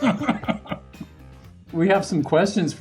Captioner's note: Richard laughs